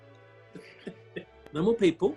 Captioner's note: giggling